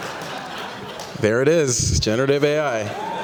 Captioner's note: laughter